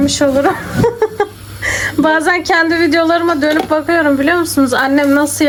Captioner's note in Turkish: kahkaha